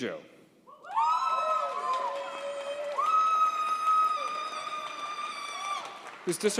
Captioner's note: audience cheers and applauds